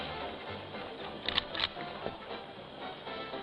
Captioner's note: gun cocks